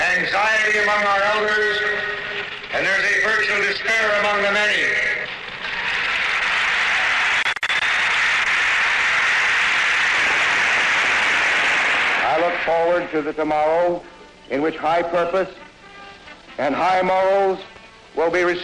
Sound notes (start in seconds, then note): 5.6 applause